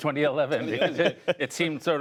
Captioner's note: laughter